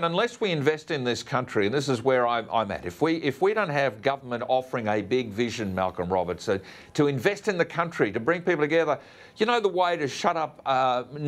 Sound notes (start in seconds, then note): none